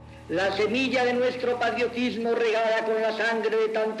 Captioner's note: speaking Spanish